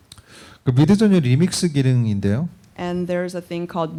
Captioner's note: speaking korean